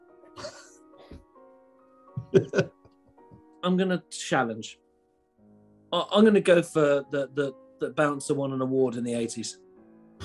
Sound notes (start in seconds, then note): 0.2 sniggering; 2.1 chuckling